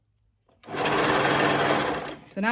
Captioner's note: serger clattering